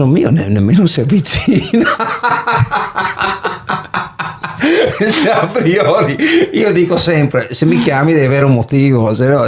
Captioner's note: laughs